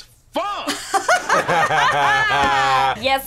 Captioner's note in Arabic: كلاهما يضحك